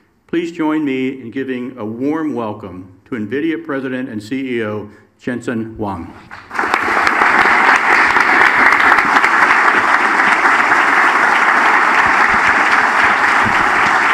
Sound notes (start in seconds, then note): 6.3 audience applauds